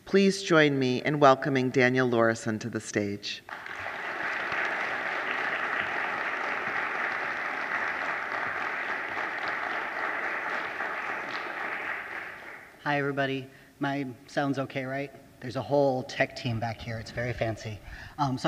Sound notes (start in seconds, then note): 3.6 audience applauding